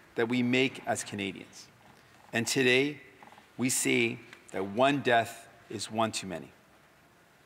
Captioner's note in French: voix de l'interprète